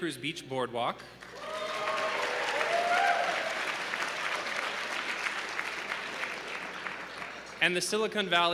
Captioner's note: applause